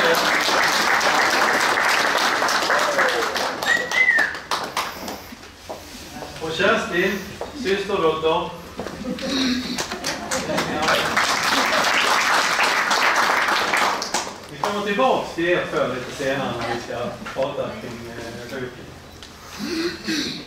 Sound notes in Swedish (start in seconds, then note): 0.0 Applåder; 9.8 Applåder